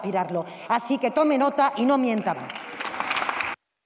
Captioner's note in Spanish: Aplausos